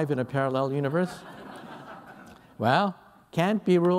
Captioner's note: laughter